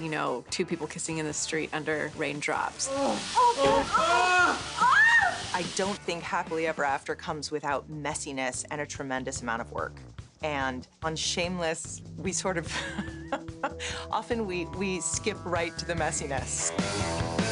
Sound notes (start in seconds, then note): 2.8 both screaming; 12.8 laughs